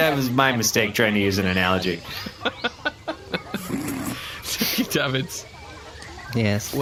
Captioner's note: laughter